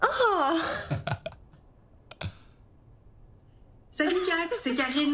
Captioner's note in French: rires